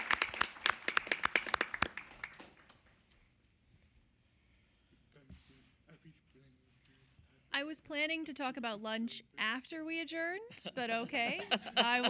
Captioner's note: applause